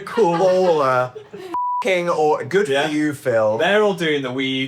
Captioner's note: beep